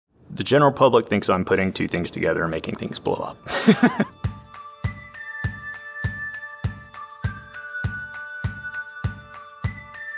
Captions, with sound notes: - The general public thinks I'm putting two things together and making things blow up. (laughs) (gentle music)